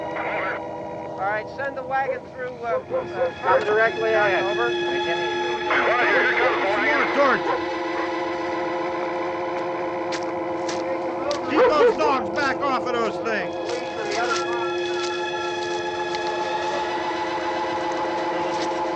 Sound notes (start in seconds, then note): 5.6 voices on police radio; 10.0 footsteps